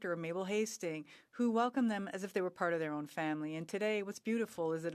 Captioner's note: speaking French